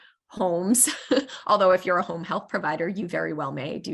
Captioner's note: laughter